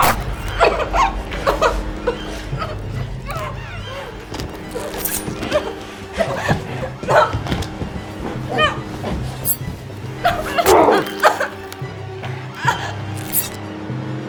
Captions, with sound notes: [knife stabbing flesh] (crying) (crying) No! No! [knife stabbing] (crying)